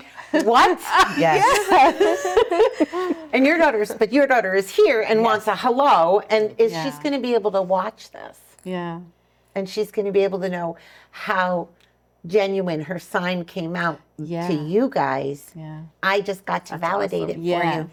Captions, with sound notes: What? (laughing) And your daughter is here and wants a hello. And she's going to be able to watch this. Yeah. And she's going to be able to know how genuine her sign came out to you guys. I just got to validate it for you.